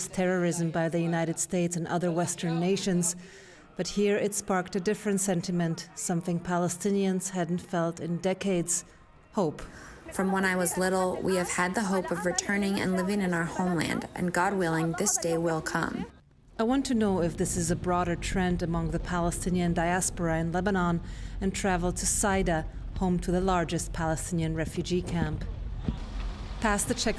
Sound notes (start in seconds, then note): 10.5 through translator